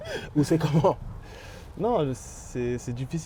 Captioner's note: laughs